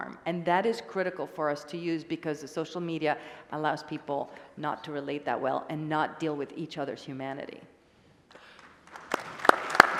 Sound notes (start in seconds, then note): 8.4 applause